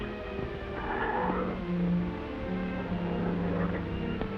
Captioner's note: tiger growls